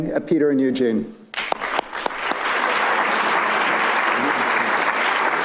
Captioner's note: everybody clapping